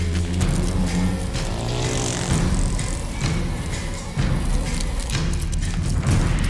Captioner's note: hornets buzzing; dramatic music